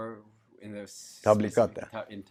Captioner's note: foreign language